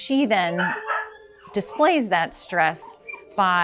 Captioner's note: dogs barking and whining